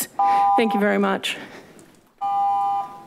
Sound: beeping

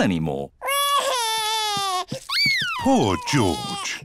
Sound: crying

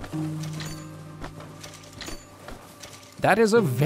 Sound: ammo pickup sound effects

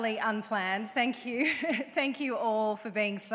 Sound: chuckles

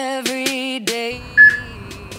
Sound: peep

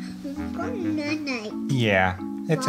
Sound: mumbles

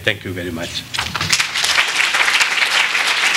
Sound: applause

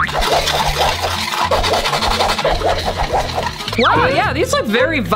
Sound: drops boinking; sugar scratchily stirring

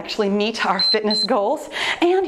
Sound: timer beeps

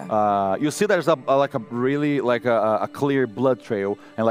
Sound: none

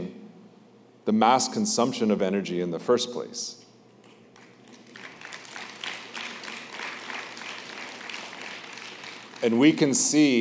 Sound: applause

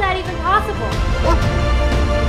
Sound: bark

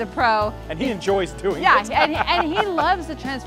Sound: laughs

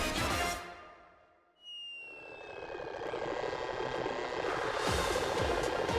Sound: engine revving

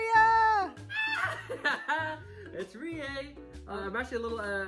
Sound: screams

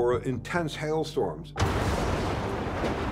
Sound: lightning cracks

